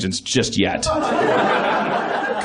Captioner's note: laughs